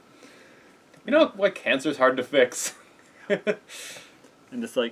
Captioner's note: laughs